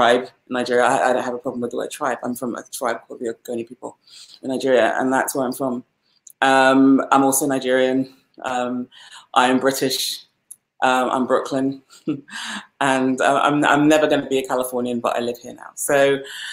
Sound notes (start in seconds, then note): 10.6 laughs